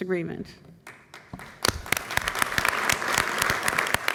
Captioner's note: applause